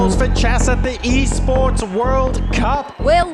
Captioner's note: crowd cheering